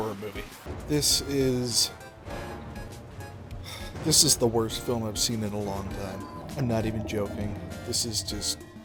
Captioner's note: sigh